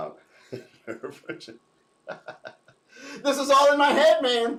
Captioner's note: laughs